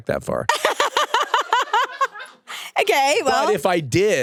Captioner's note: and crew members laugh